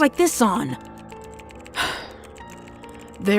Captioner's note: sigh